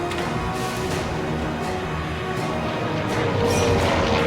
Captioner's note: plane engines roaring